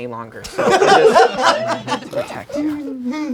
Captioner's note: laughing